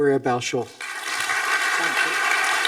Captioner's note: audience applauding